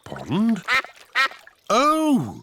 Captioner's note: quacking